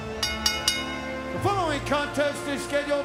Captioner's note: bell dinging